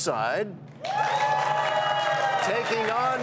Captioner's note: cheers and applause